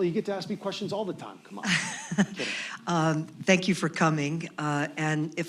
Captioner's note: laughs